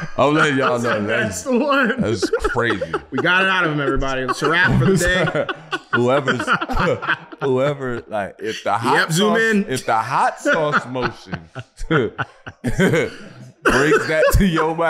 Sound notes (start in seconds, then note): 2.0 laughing; 7.1 group laughing